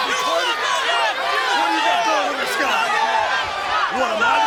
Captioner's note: audience clamoring